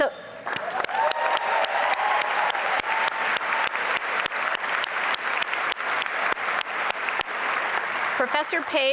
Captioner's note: applause and cheering